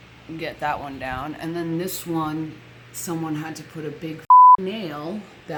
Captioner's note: beep